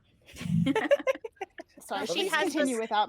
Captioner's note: laughs